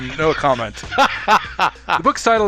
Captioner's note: laughing